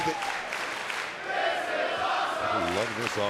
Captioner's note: audience chants